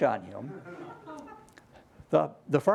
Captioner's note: laughter